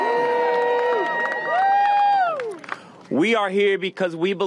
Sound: applause

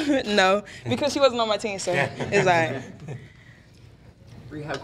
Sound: laughs

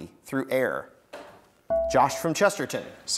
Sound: buzzer beeps

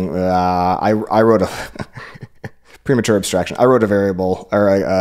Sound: laughs

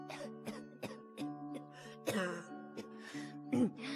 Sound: coughs

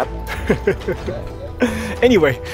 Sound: chuckles

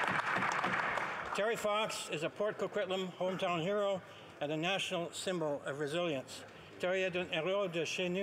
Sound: applause

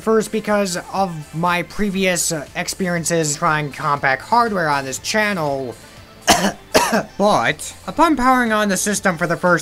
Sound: cough

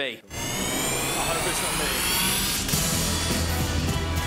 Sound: whooshing; upbeat music

